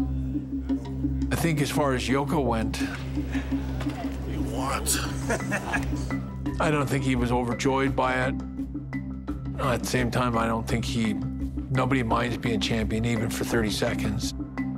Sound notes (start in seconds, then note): 4.8 laugh